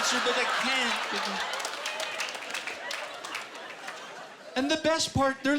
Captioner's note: laughing and applause